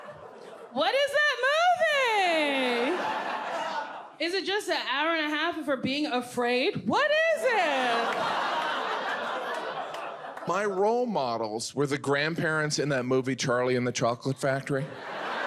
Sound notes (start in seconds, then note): 7.6 audience laughs